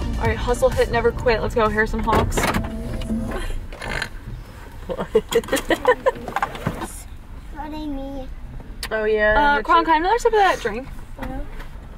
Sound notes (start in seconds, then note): 3.8 snorts; 4.8 laughs